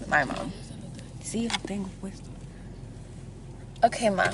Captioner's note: speaks in foreign language